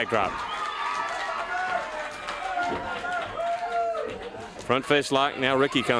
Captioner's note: crowd cheering